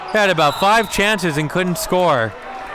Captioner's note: whistle blows